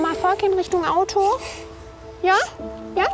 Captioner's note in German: Schniefen